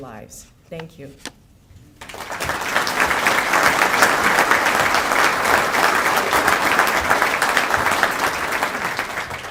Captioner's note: applause